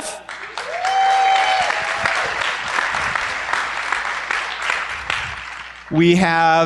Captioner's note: applause